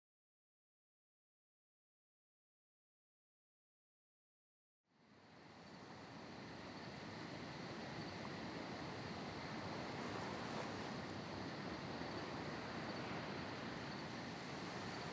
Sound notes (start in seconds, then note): 5.2 nighttime ambience